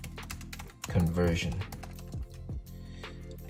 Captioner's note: typing on keyboard